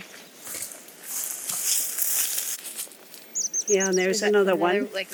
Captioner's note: footsteps crunching